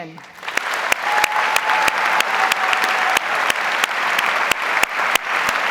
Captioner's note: audience applauds